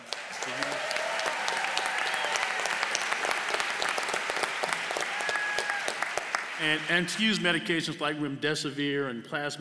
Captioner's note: applause